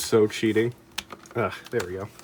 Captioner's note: click